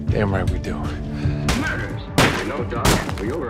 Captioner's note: muffled TV chatter; hammer slamming